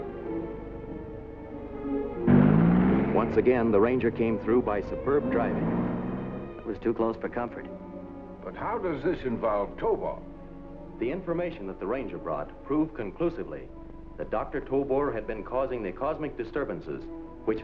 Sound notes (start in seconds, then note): 2.2 truck revving